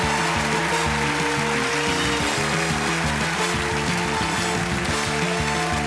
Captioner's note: cheering and applause; theme music playing